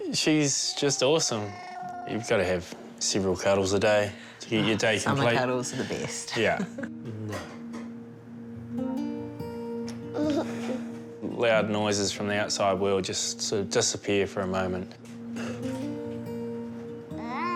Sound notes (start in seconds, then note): 10.2 giggles softly; 16.8 whines gently